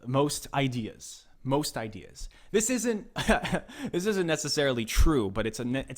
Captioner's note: laughs